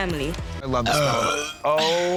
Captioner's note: belch